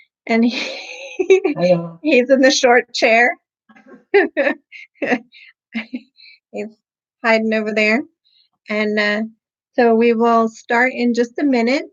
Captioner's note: giggling